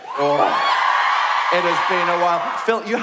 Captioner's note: cheering